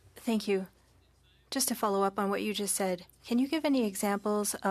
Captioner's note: speaking French